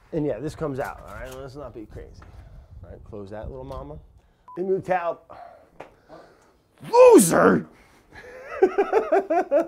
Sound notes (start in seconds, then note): 6.9 sighs; 8.2 laughs